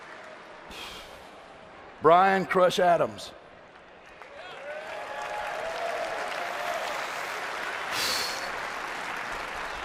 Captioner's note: applause